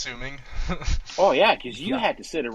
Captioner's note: laughing